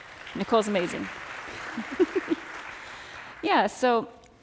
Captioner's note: audience applauds; chuckles